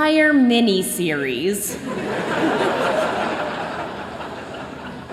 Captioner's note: laughter